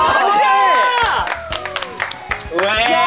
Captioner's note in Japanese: 拍手